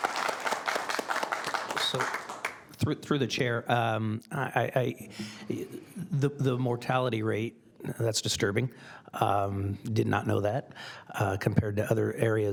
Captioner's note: applause